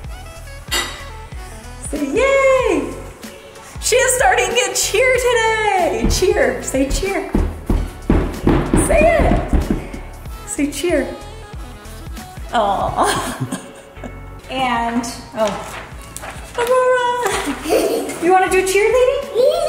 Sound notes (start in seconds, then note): 0.3 upbeat music; 5.9 stamping feet; 12.9 speaker 1 giggles; 17.2 both giggling